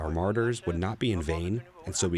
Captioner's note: speaking another language